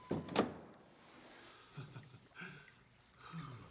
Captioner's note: laughs; sighs